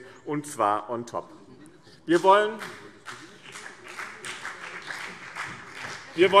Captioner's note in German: Beifall BÜNDNIS 90/DIE GRÜNEN und vereinzelt CDU